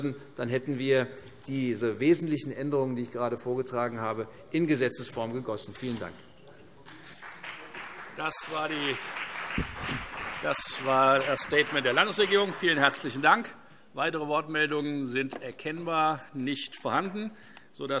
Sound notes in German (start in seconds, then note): 6.8 Beifall CDU und BÜNDNIS 90/DIE GRÜNEN